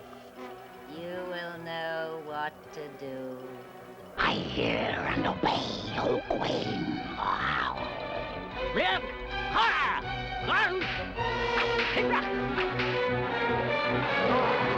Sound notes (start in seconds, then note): 7.1 snarling; 8.3 barks command in strange language